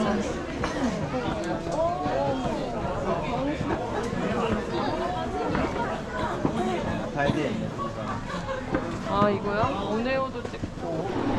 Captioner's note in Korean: 두근두근